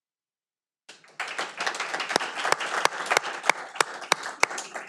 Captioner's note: audience applauding